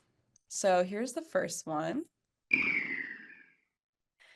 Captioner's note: whistling sound